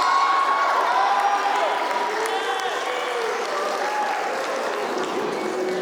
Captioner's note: applause